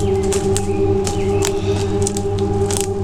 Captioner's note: exhales